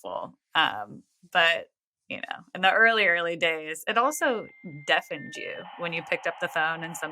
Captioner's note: dial-up sounds